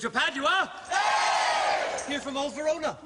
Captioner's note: Crowd cheers Padua